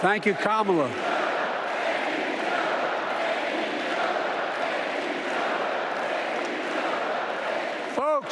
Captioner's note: applause